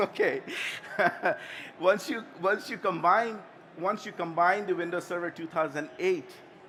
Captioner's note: laughter